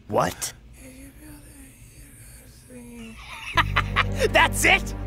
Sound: The Professor whispers

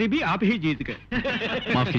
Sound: laughs

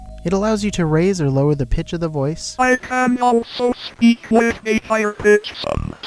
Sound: computer voice

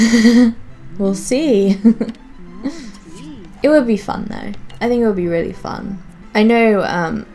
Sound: giggles

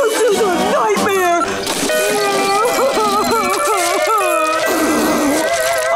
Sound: crying

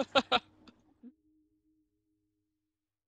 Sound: laughing

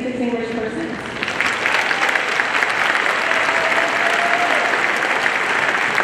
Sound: audience applauding

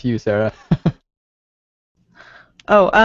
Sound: chuckles

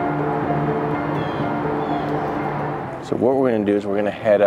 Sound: suspenseful light classical music continuing; vehicles whooshing; birds calling

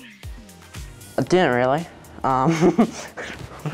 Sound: laughs

